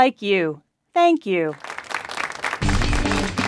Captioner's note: clapping